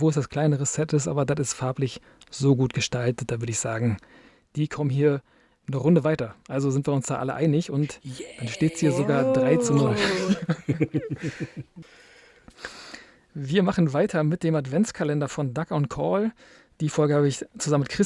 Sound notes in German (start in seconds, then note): 12.5 gelächter